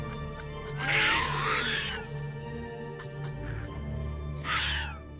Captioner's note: creature screeching